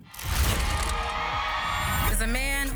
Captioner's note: audience cheering